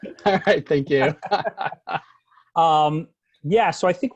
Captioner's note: laughter